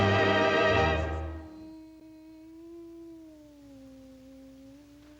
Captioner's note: humming